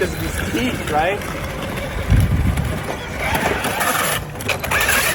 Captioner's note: wheels whirring